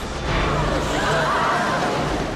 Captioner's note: students gasping